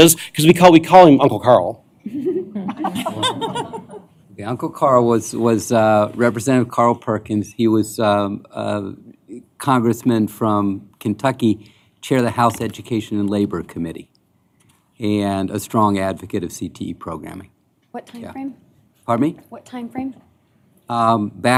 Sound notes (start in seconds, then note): 2.0 laughter